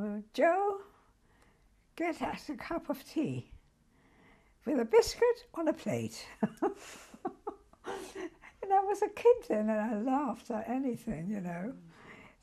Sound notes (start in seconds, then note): 6.4 laughs